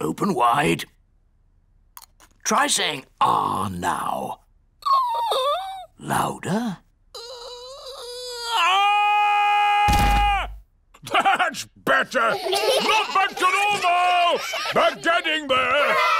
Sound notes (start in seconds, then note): 5.0 squeaks; 7.4 squeaks; 9.0 shouts; 9.9 thudding; 12.1 children giggling; 12.1 chuckles